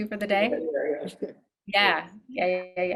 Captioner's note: chuckles